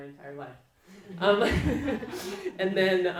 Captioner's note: laughing